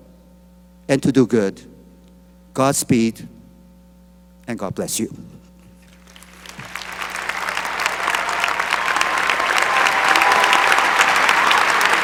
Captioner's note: cheering and applause